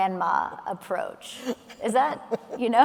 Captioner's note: laughing